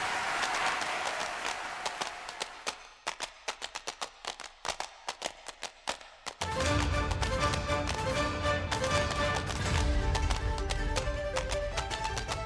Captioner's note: tap dancing